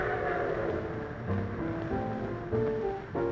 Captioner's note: train whistle